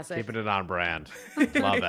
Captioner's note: chuckles